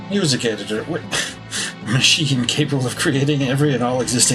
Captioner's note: laughing